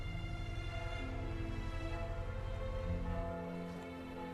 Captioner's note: church bells toll